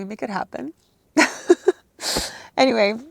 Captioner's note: laughs loudly